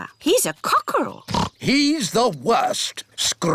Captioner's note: oinks